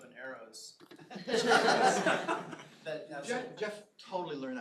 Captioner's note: laughter